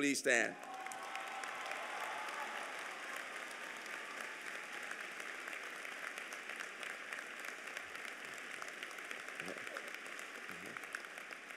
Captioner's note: applause